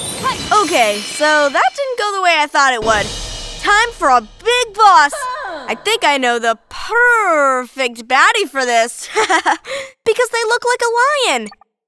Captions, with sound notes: OK, so that didn’t go the way I thought it would. [cymbal crash sound] Time for a big boss. I think I know the "pur-r-rfect" baddie for this! [chuckling] Because they look like a lion!